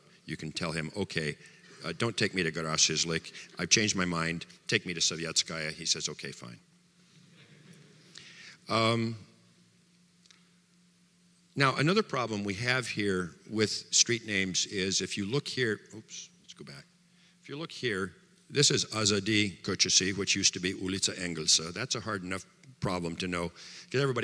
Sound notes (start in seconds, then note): 7.4 audience laughter